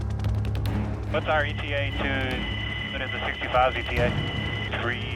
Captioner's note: radio Transmission